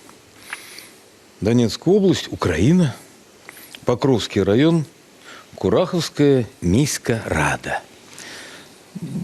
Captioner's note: in Ukrainian